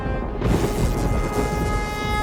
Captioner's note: buzzing